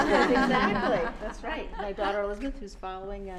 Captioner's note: laughter